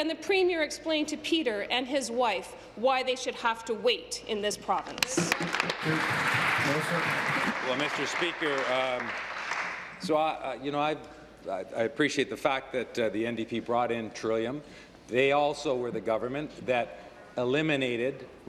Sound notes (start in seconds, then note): 8.6 applause